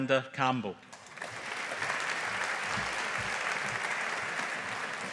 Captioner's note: audience applauding